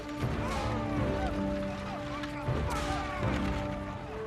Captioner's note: yelling